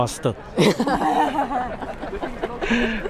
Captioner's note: all laugh